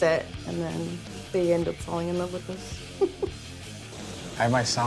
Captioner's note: chuckles